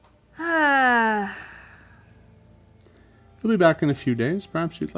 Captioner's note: Tariel sighs deeply